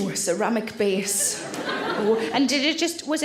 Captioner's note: audience laughs